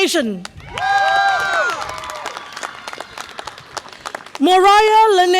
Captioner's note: audience applause and cheer